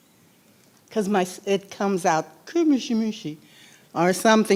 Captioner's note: speaking in foreign language